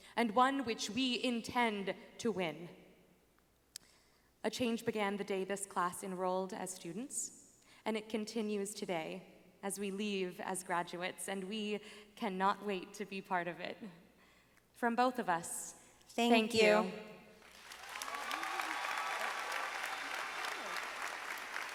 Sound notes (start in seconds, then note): 17.4 audience applauding